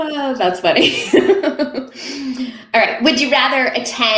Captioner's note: laughing